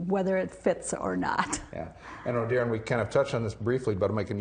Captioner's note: laugh